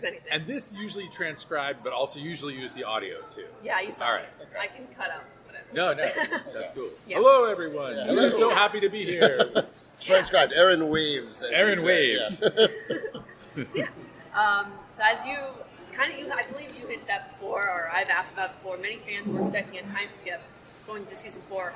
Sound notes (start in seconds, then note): 9.1 laughter